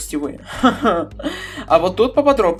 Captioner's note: a little laugh